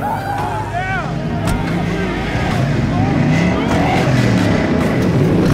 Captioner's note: engines rumbling